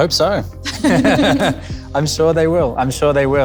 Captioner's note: all three of them laugh